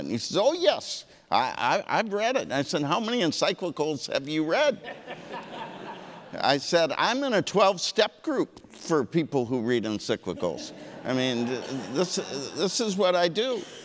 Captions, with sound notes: And he says oh yes, I've read it. And I said how many encyclicals have you read? (audience laughing) I said I'm in a 12 step group for people who read encyclicals. I mean this is what I do.